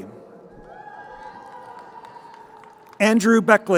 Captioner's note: crowd cheering